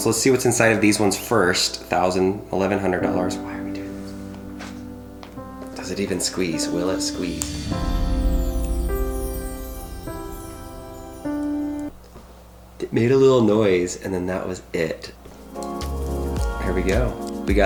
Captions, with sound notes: let's see what's inside of these ones first. The 1,000, $1,100 dollars, (whispers) why are we doing this? Does it even squeeze? Will it squeeze? (emotional music) It made a little noise, and then that was it. Here we go.